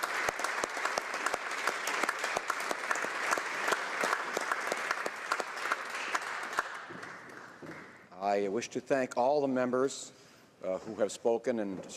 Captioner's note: applause